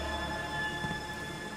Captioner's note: footsteps